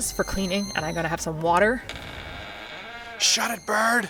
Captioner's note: door creaking